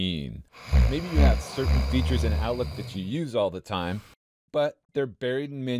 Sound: snoring sound

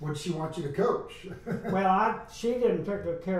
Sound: laughs

